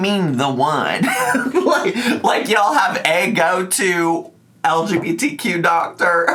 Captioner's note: laughs